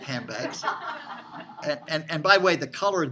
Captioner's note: students laughing